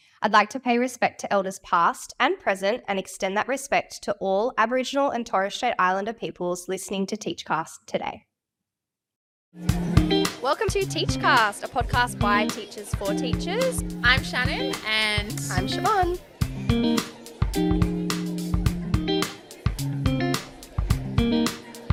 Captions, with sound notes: I'd like to pay respect to Elders past and present, and extend that respect to all Aboriginal and Torres Strait Islander peoples listening to the Teach NSW Podcast today. (upbeat music) (crowd faintly chatting) Welcome to the Teach NSW Podcast, a podcast by teachers for teachers. I'm Shannon, and I'm Siobhan.